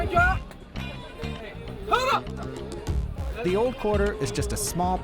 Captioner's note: screams